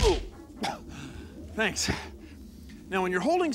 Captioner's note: <i> grunts</i>